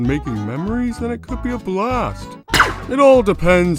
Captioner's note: blast